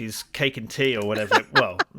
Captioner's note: laughs